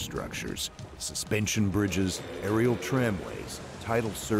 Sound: voiceover

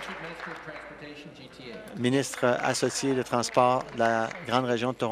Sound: applause

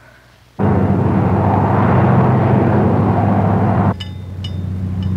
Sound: big truck approaching; cow bell sounds from sheep herd

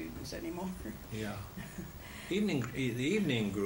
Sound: laughs

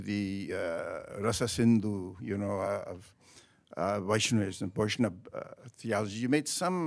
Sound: speaks in a foreign language

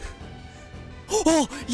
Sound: gasp

